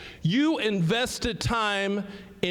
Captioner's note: none